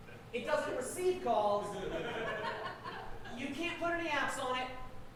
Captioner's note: audience laughing